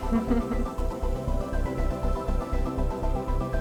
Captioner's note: laughs; ethereal music